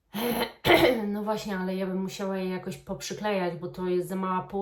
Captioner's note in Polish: kaszel